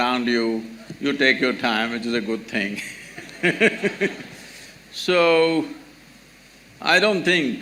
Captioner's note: laughs